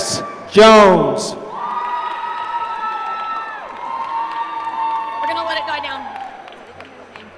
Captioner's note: applause